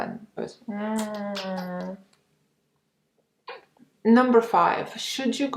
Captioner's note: smooching